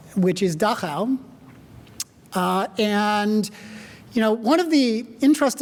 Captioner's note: none